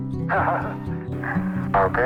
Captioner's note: nervous laughter